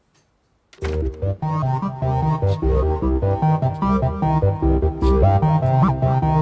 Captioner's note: door shuts